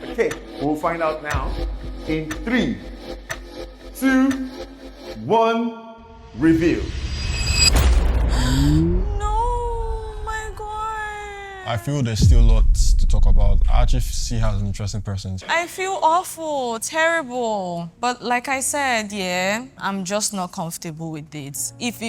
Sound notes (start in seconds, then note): 6.9 music crescendos; 8.5 gasps